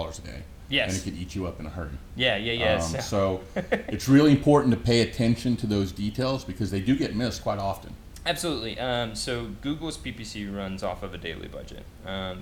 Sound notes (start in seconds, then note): 2.7 laughs